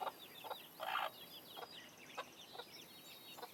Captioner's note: clucking